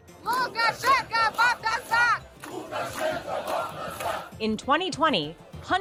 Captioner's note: activists shouting in foreign language